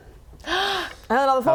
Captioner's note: gasp